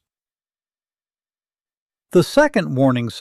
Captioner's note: pause